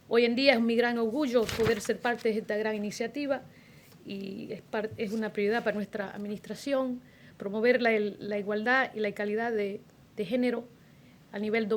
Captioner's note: foreign language